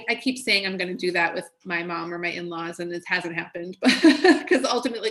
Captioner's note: laughs